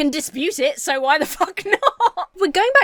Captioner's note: laughs